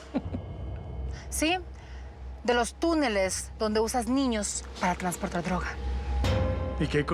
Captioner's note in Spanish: risas